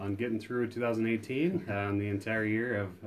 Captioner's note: laughs